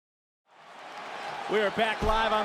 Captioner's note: audience cheers